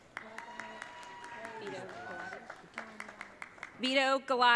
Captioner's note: audience cheering